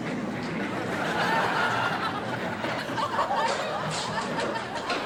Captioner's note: audience laughs